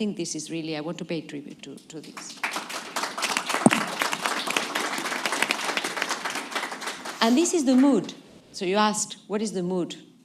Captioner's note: applause